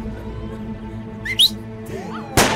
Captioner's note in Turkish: Islık çalıyor